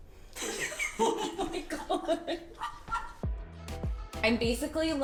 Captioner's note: laughs